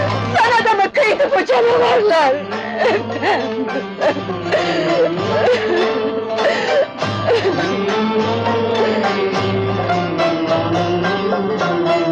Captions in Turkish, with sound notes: Sana da mı kıydı bu canavarlar? Efem! [Hıçkırıklar] [Fonda özgün hareketli film müziği]